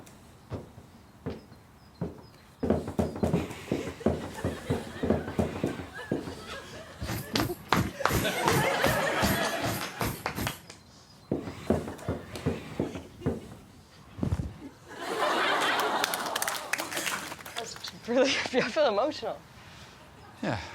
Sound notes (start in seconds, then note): 3.4 audience giggling; 9.0 laughter; 15.2 audience 'aww'ing